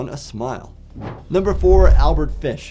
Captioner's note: transition whooshes